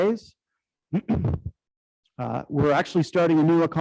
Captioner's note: clears throat